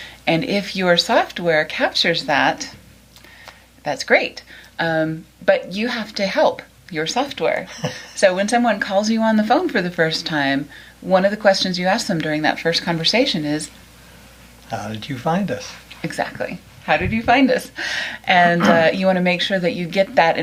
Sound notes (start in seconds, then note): 7.6 laughs